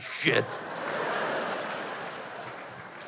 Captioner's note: laughter